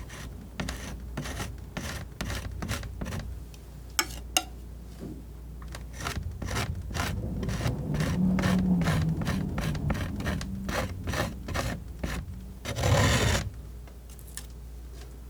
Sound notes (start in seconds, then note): 5.6 scratching